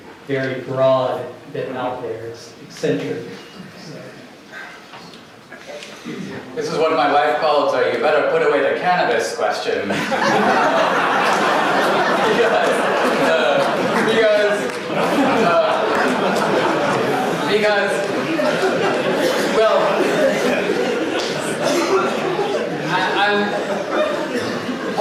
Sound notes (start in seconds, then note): 9.8 audience laughter